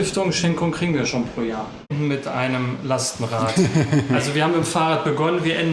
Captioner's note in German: räuspern; gelächter